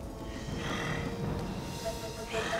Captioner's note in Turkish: Nefes sesi